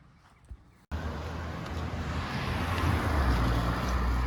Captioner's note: traffic noise